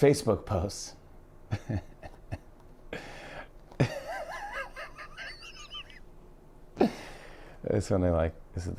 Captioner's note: laughing